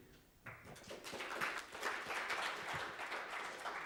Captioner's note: applause